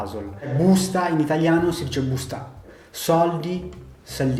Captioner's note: Eritrean language